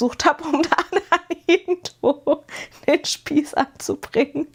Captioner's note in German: gelächter